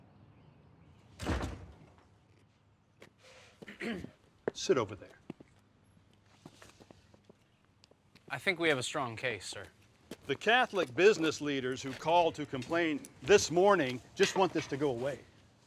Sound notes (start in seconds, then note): 1.1 door slams shut; 3.6 Tommy clears his throat